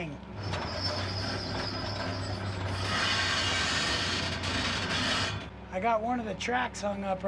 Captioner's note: track creaking